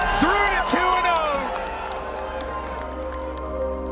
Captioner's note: audience clapping